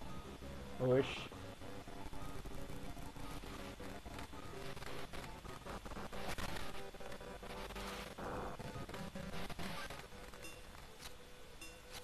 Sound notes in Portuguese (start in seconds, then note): 1.0 indignado